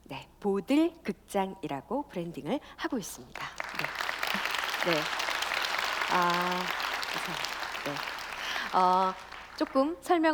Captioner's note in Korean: 박수